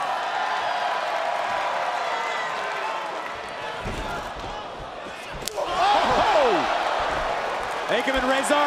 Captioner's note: crowd cheering